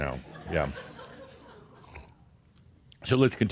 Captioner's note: a few chuckles